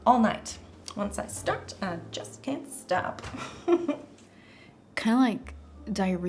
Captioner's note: giggles